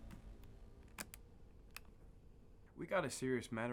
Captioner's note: cassette recorder clicks